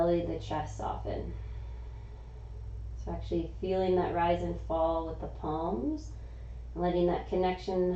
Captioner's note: exhaling